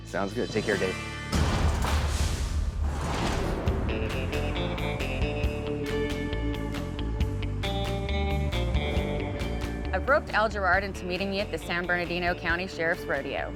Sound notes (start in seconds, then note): 1.3 echoing slam; 3.1 upbeat music